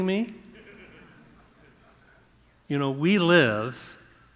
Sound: audience chuckling

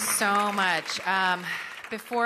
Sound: applause

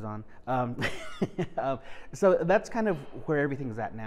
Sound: laughing

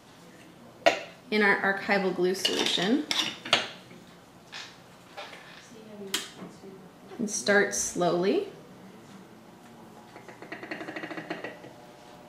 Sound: rattling sound of object in jar made by stirrer

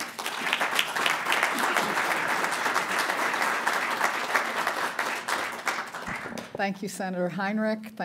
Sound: applause

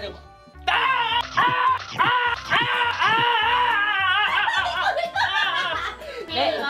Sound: Yong-pil, being bitten, shouting, being bitten, and shouting again

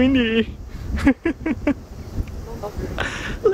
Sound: nervous laugh

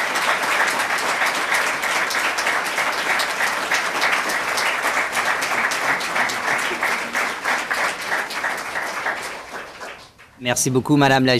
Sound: applause

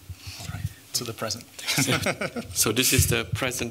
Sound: laughs

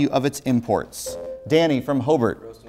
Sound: buzzer

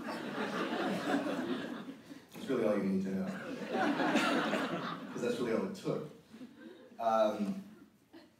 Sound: audience laughter

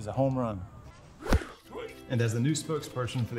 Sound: bat whiffs

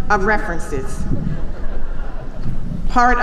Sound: chuckling

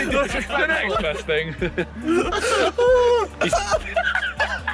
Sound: laughter; laughs; JJ laughing

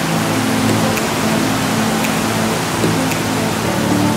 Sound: waterfall

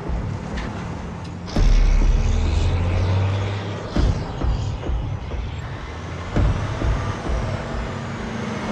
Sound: truck engine revving

